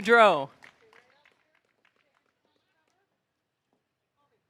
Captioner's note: audience applauding